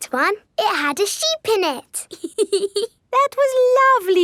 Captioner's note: laughs